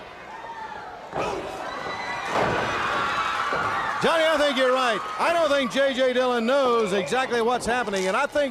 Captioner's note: crowd cheering